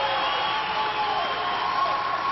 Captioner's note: applause